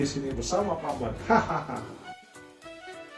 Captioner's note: laughing like a villain